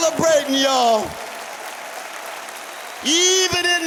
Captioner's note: cheers and applause